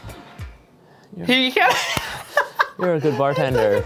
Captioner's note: laughter